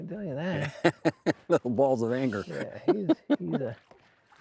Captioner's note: laughs